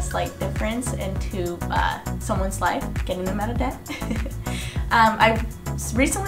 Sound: chuckles

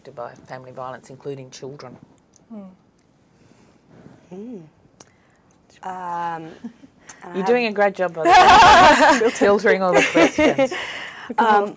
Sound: laughter

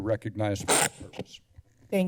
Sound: feedback sound

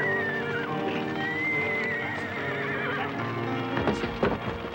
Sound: horses whinnying; fire crackling; horse hooves thudding

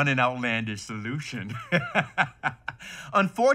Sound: laughs

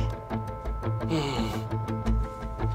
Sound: sighs; quiet background music

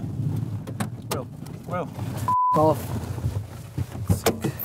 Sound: beep; car door slams

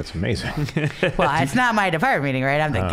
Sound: laughing

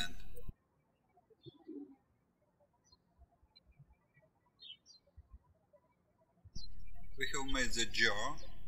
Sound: birds chirping

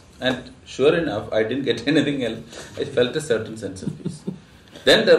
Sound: laughs

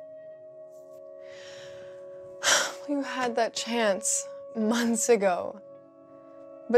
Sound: sighs

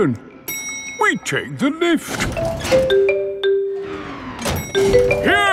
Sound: elevator dings

